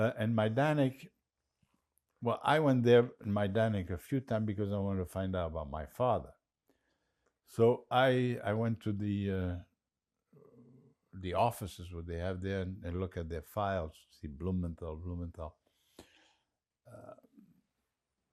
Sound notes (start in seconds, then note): none